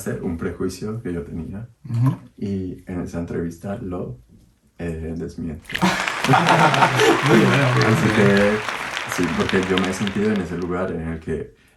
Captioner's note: applause